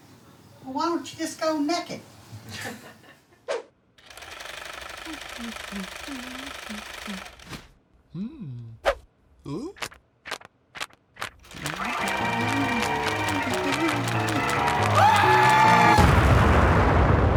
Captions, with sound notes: - Well why don't you just go naked. (laughing) (sewing machine running) (upbeat music)